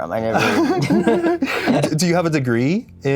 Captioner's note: both giggle